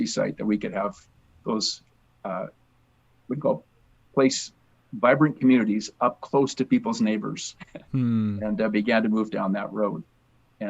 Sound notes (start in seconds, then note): 7.5 laughs